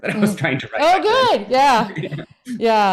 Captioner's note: both laugh